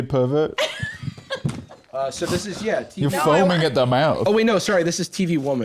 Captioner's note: laughs